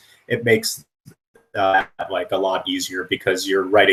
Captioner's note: static